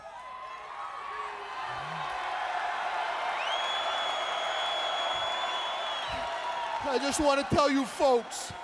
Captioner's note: crowd cheering